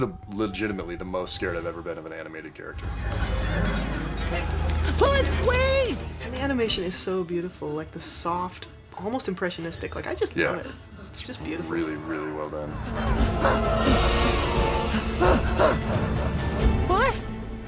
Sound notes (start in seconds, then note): 12.7 pants in panic